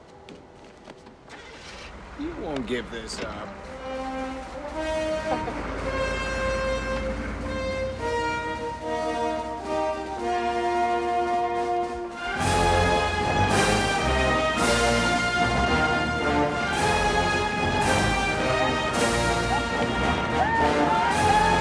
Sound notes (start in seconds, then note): 1.2 ignition Starts; 5.2 Victoria Laughs